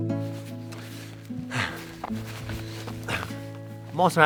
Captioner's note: breathing